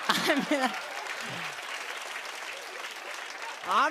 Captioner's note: laughter